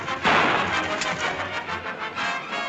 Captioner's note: gun clicks